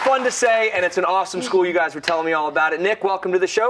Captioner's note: cheers and applause